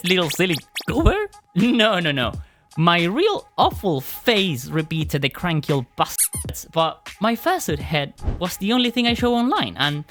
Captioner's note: squeak